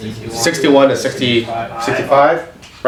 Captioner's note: overlapping chatter